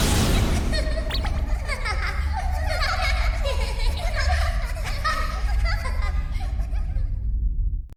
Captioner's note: nefarious giggling